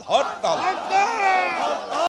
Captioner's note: crowd repeats again